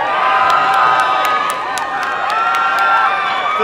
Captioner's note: applause and cheering